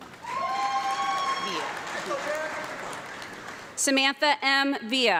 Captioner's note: audience clapping and cheering